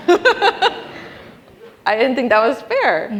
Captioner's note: laughing